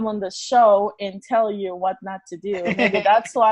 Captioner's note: laughs